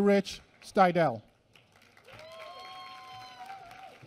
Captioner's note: applause